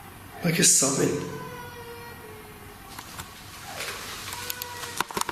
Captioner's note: child crying; child sobbing